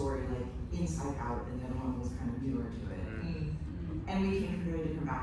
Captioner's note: murmurs of understanding